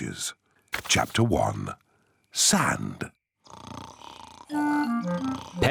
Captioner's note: snoring